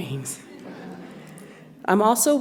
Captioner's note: audience laughs